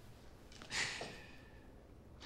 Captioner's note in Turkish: Nefes sesi